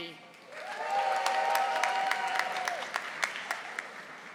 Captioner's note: audience applauding